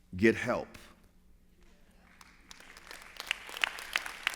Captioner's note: applause